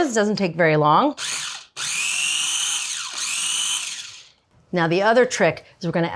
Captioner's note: food processor whirring